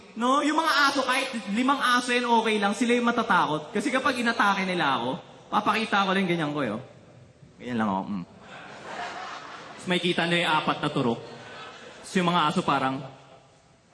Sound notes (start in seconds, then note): 8.4 laughter